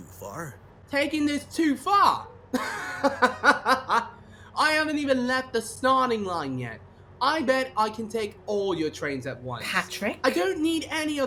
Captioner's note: laughs